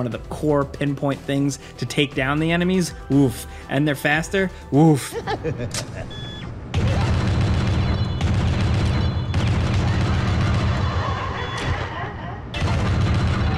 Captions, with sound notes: of the core pinpoint things to take down the enemies oof, and they're faster woof. (creepy laughter) (rapid fire explosions)